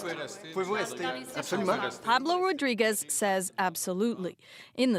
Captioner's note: speaking French